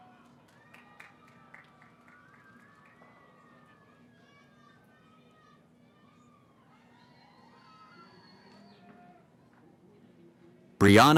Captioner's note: cheering